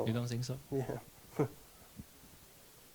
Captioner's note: chuckles